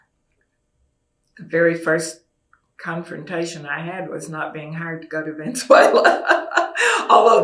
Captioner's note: laughs